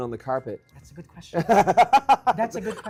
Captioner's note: laughs